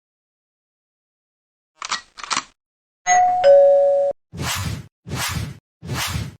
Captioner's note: bell